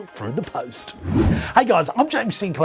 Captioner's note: whooshing